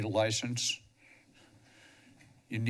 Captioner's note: pause